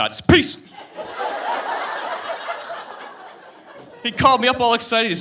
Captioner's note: audience laughing